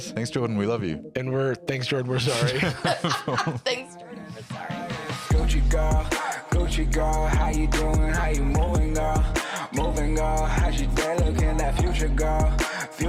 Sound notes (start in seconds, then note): 2.2 all laughing; 4.9 outro music